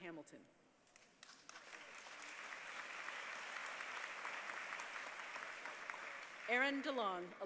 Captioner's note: applause